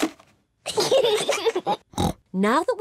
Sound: snorts; kids giggle

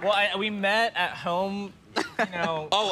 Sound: laughs

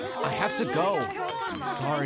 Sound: student chatter

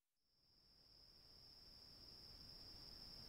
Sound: crickets chirping

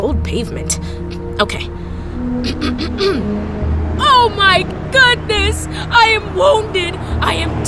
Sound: clears throat

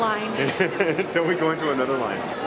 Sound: laughing

